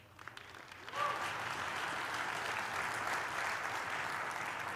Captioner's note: applause